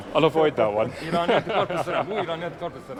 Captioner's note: laughing